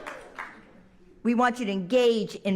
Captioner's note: applause